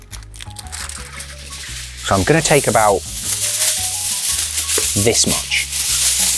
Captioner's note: tinfoil rustles